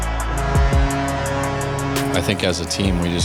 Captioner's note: horn blares